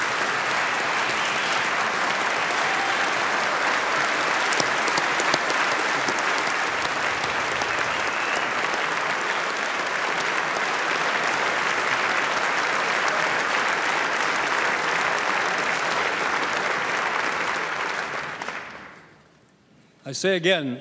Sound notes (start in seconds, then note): 4.6 applause